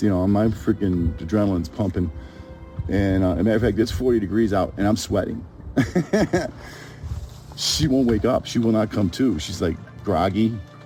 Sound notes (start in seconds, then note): 5.8 laughs